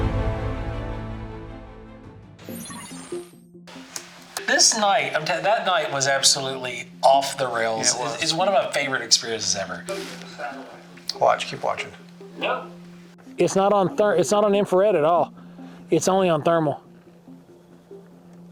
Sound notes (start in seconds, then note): 2.5 text beeps